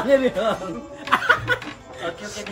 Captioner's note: laughing